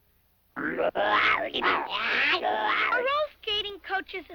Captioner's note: snoopy noises